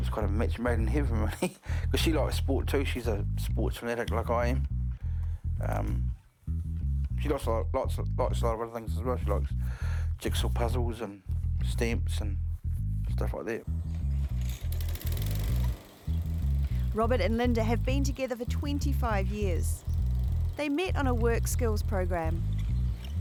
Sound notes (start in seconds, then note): 14.2 lawn-mower starts